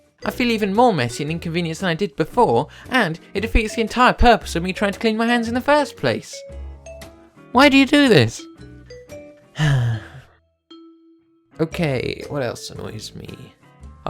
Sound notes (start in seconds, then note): 9.5 sigh